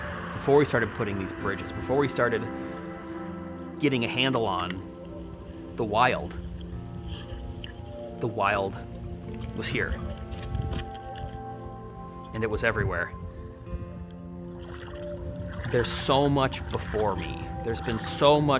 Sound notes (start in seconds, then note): 14.5 water sloshing